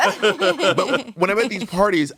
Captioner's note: everyone laughs